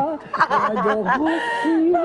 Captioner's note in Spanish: risas